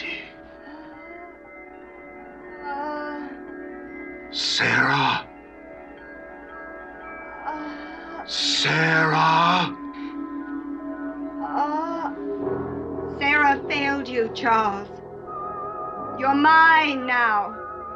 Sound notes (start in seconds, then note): 2.5 groaning; 11.3 groaning